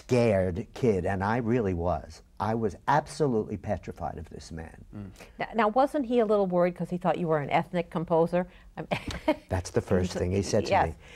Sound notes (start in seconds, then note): 8.4 laughs